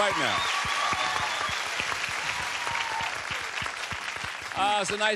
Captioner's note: cheers, applause